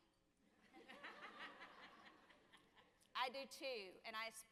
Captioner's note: audience laughing